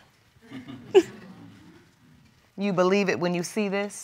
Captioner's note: chuckles